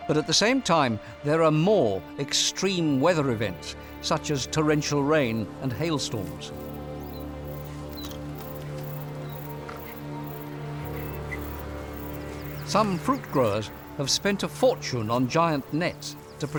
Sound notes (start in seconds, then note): 6.7 birds; 6.7 crickets